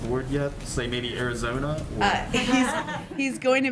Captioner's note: laughter